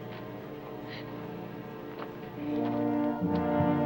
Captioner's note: sobs